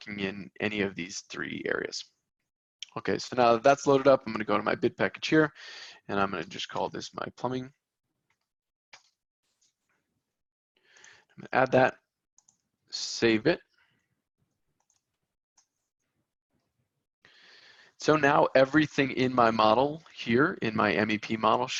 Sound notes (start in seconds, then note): 11.4 mouse clicking